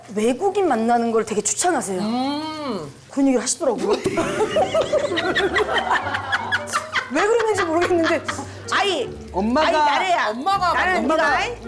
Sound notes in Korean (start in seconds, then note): 4.1 난데없이 터지는 웃음